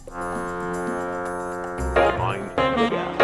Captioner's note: fog horn sound